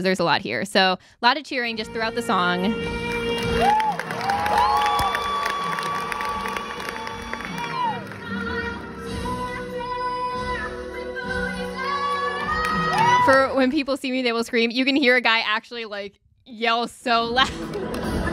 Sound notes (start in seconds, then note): 3.1 cheering and clapping